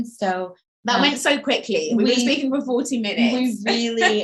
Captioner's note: laughing